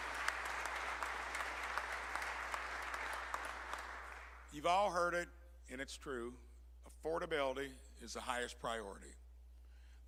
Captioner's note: applause